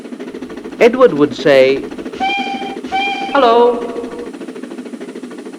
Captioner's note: whistle